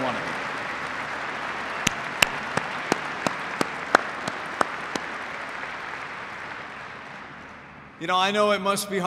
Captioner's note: applause